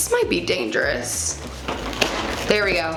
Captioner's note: cereal rattling